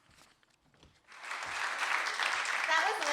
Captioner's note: audience applauding